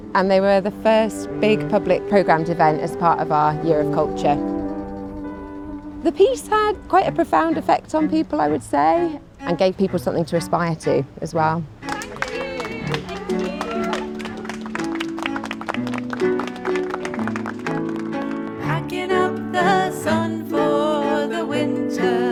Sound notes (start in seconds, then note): 14.4 applause